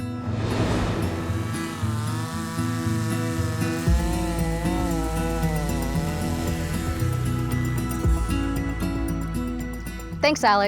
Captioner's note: chainsaw buzzing; lively music